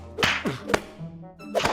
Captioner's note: grunting